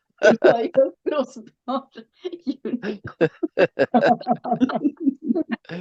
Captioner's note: laughing